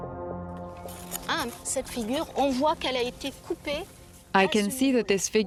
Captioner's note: speaking French